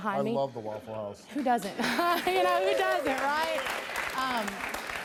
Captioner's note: laughs